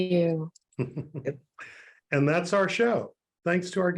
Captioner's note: chuckles